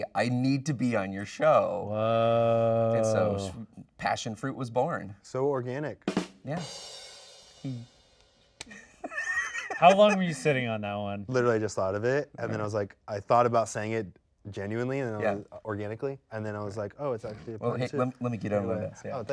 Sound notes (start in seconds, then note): 6.0 drum rim shot; 8.7 hosts laugh